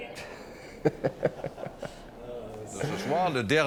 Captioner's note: Mike Matheson laughs